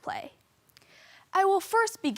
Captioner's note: rustling